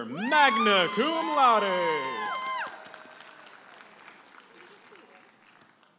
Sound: audience applauding and cheering

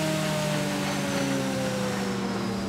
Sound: whirring slowly stops

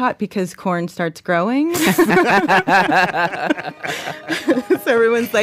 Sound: laughs

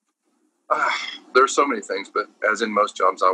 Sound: sighs

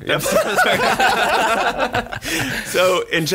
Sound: everyone laughs

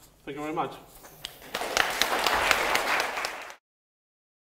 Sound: applause

